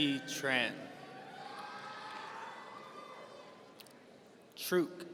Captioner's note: audience cheering